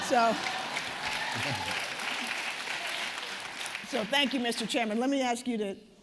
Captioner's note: applause